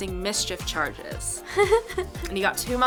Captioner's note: laughs